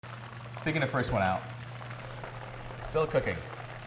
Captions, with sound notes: [oil bubbles] Taking the first one out. It's still cooking.